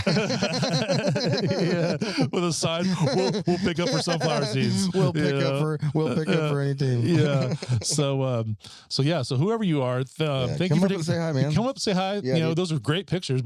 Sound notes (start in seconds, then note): 4.0 laughing